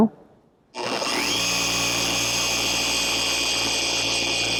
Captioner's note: machine humming